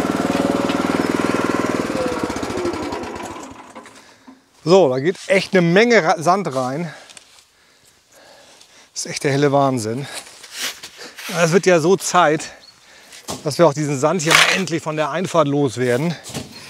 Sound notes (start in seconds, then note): 0.0 engine off